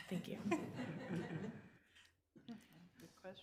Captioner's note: members laughing